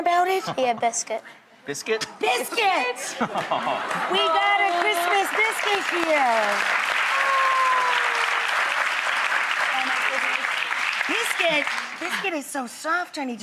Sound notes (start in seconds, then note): 3.0 audience applauds